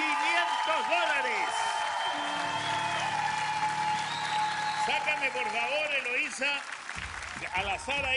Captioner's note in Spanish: ovacion